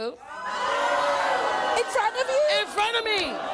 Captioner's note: audience groaning